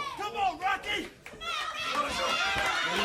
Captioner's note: crowd chatter